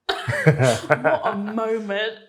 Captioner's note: chuckles